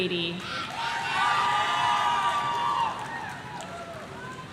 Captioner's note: audience cheering